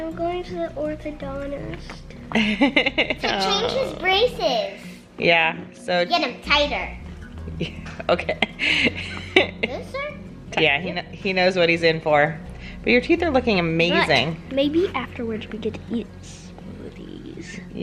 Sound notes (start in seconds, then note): 2.3 laughs; 7.6 laughs